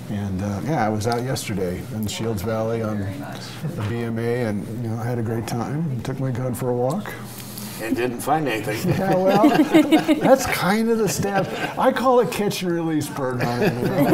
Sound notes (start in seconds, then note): 7.7 laughs